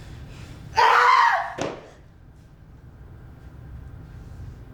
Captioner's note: screams